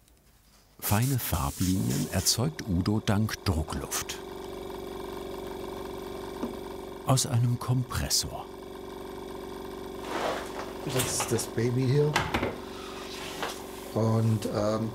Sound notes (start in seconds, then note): 4.5 compressor whirring